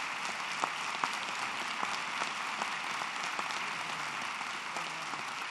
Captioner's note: applause